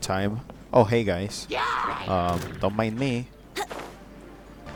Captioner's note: Hilichurls growl upon noticing Venti